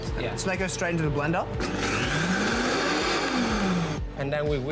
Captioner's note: blender whirring